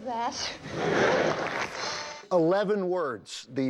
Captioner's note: audience laughs